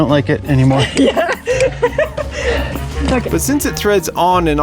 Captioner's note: laughter